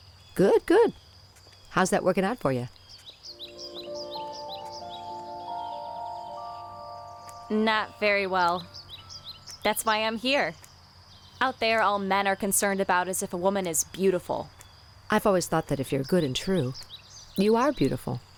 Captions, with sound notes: Good. Good. How's that working out for ya? (chime transition) Not very well. That's why I'm here. Out there all men are concerned about is if a woman is beautiful. I've always thought that if you're good and true, you are beautiful.